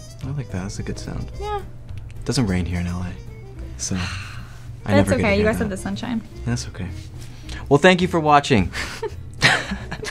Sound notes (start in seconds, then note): 3.8 sighs; 9.4 laughs